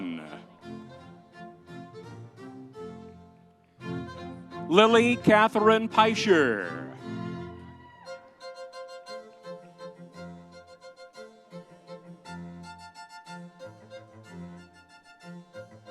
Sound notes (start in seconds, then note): 7.6 audience cheering; 8.5 lively music continues